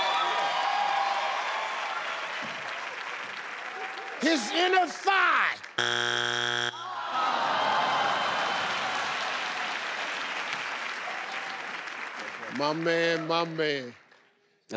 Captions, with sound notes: - His inner thigh? (buzzer beeps) - Aww! (crowd cheers) - My man, my man.